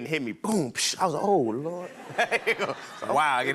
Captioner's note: laughs